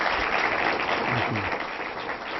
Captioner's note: applause